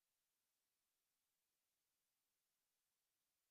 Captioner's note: none